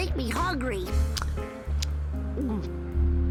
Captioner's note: swallows